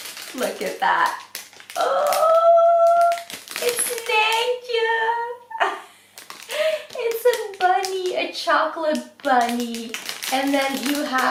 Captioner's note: laughs